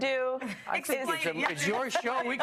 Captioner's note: laughter